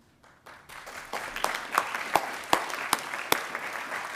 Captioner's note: attendees applauding